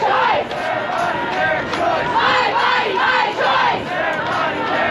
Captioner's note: applause